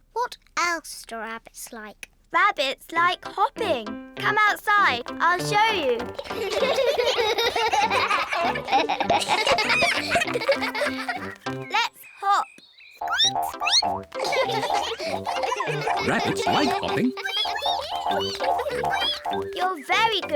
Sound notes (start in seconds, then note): 7.7 all giggle; 13.1 squeaks; 14.1 all giggle; 19.4 all squeak